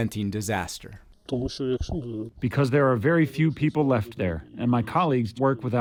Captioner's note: through translator